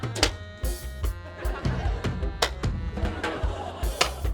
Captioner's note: laughter; laughter